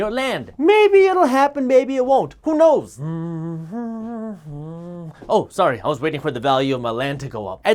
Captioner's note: humming